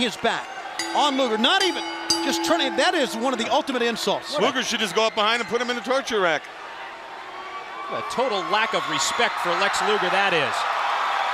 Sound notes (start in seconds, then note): 0.7 bell ringing